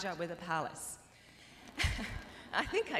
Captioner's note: laughter